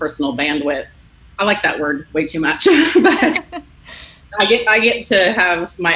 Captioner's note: laughs